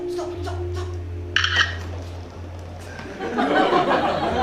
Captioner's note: shutter sound